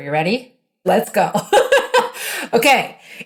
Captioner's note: laughing